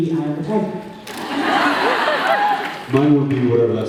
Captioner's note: laughs